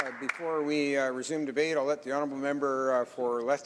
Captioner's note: some applause